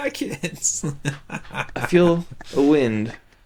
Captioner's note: laughs